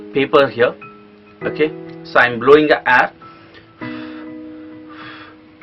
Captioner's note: blowing air